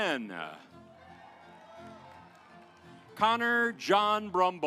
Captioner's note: audience applauds